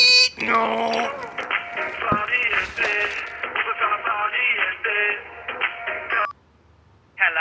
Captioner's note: silly noises; phone ringing